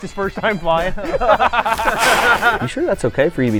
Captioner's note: laughs